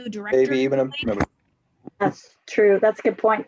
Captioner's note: overlapping chatter